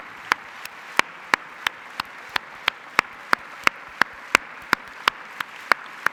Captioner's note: applause